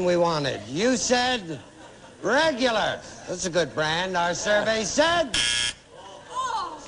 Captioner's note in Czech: bzučák